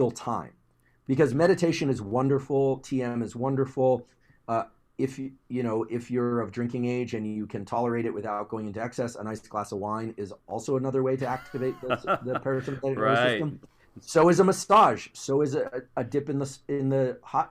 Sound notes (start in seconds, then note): 11.2 laugh